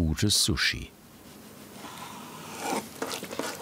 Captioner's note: cutting sounds